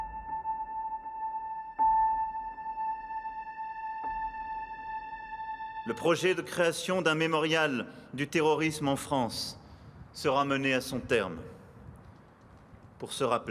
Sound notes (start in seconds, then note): 6.0 speaking in foreign language